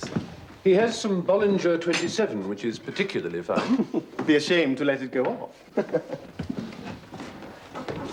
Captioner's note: laughs